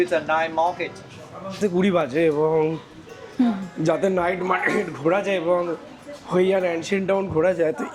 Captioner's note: clearing throat